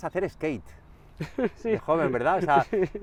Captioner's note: laughs